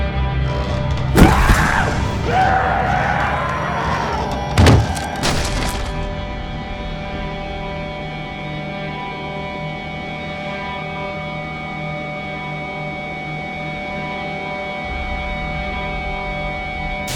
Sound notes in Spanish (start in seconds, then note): 1.3 Rogers gritando; 7.5 música intensa